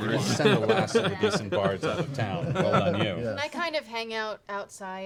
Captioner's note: laughter